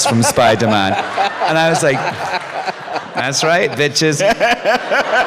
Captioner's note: laughter